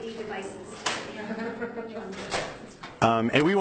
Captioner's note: laughing